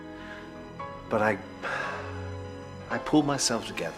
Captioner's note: sighs